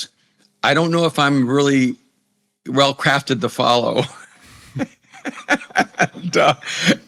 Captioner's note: laughs